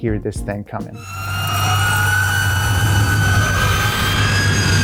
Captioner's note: car whining